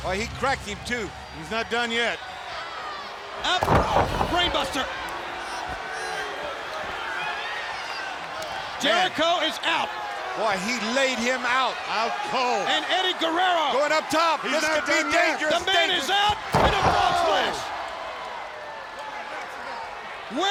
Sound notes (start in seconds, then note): 3.4 body thudding; 5.9 belt thudding; 5.9 crowd clamoring; 16.3 body thudding; 17.1 crowd clamoring